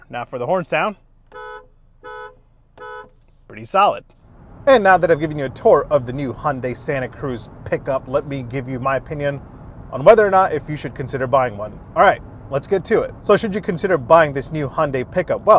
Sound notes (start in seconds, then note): 1.2 car horn